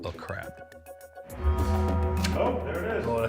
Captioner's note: bell chimes